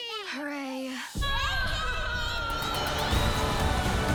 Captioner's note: babbles; cheers